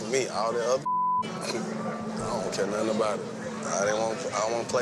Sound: chuckles

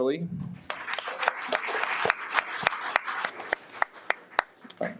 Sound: audience applauds

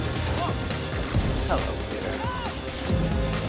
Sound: Miles yells

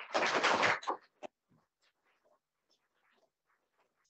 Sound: audience applauds

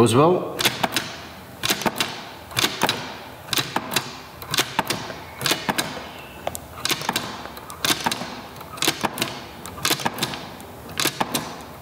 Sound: marble gate clicking; marble gate clicking multiple times

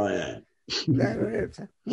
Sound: laughs

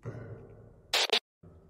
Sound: static interference

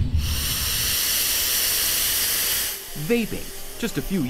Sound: inhaling deeply

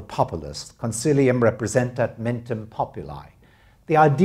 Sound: non-english speech

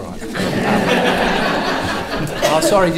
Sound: audience laughing

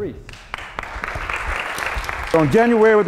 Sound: applauding

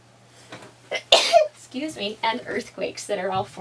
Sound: sneezes

